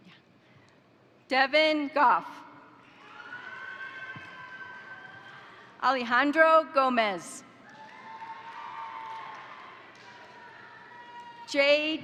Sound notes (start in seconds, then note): 2.9 crowd cheering; 3.4 crowd applauding; 7.6 crowd cheering; 7.6 crowd applauding